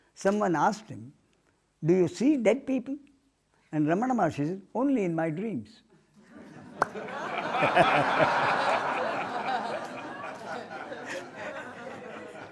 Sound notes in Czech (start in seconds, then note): 9.5 smích